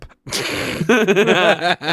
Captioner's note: laughing